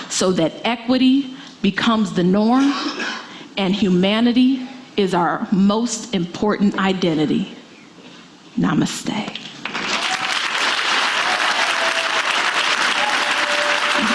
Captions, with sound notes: so that equity becomes the norm and humanity is our most important identity. Namaste. (audience applauding)